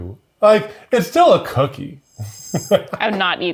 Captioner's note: laughs